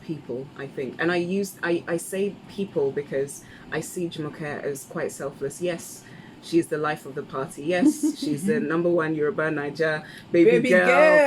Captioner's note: laughs